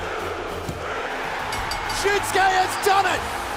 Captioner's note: bell ringing